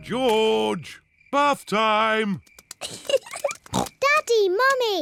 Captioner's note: giggles